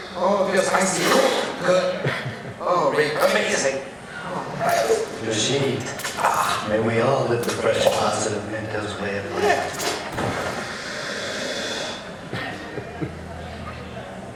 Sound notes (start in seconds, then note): 10.4 lingering hissing